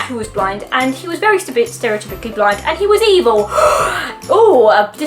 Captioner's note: shocked intake of breath